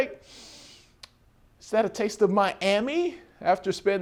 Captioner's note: sniff